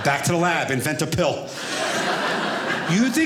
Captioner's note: audience laughing